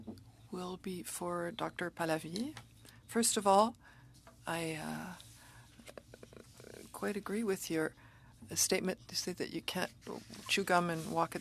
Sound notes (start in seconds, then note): 3.8 speaking French